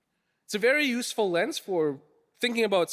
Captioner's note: none